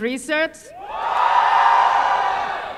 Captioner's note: cheering